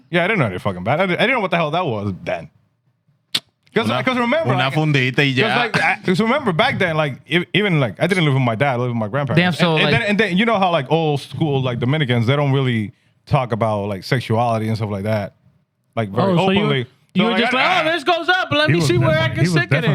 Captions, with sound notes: Yeah, I didn't know any fucking better. I didn't know what the hell that was, Dan. Because remember-- (Speaking In Foreign Language) Just remember, back then, even like, I didn't live with my dad, I lived with my grandparents. Damn, so like-- And then you know how old school, like, the Americans, they don't really talk about sexuality and stuff like that. Like, very openly-- Oh, so you were just like, "Ah, this goes up. "Let me see where I can stick it in."